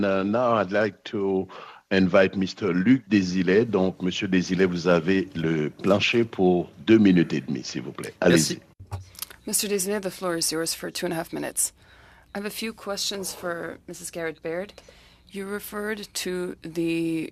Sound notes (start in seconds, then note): 9.2 speaking French